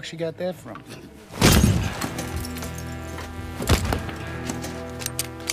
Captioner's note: ominous music; glass shattering; guns clicking